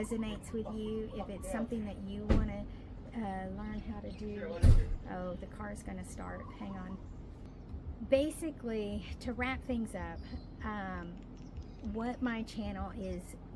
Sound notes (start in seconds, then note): 4.3 car doors closing in background